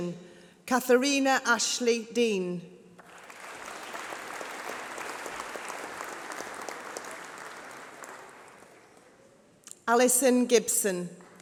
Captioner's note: applause